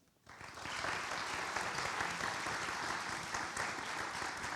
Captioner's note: audience applauds